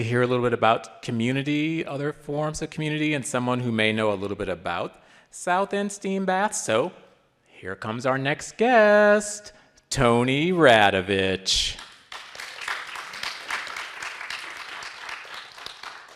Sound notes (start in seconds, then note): 11.6 people clapping